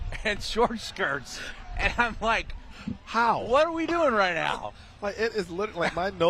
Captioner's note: laughter